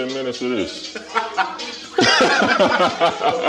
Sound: laughing

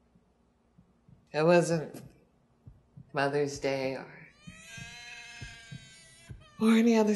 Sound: baby crying, heart beating

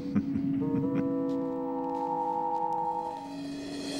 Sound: Kreel chuckling

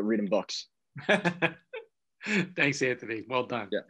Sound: laughs

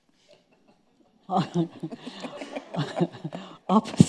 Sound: laughing

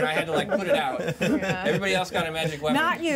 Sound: speaker laughs

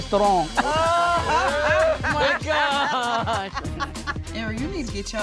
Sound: group chatter and laughter

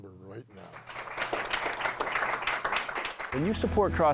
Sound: applauding

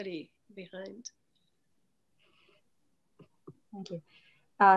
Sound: speaks faintly

